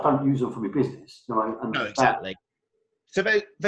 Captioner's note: murmuring